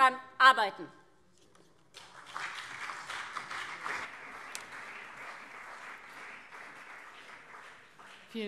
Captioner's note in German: Beifall CDU und SPD